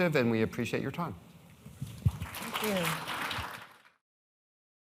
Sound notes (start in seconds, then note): 2.0 audience applause